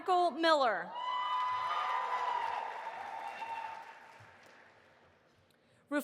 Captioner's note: audience applauding